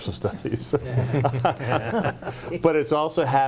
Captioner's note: group laughing